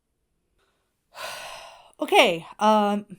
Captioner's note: Hana sighs